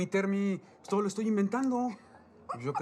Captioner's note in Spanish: Ríe